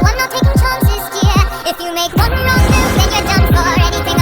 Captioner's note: chimera roars